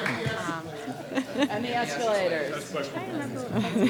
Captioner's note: laughter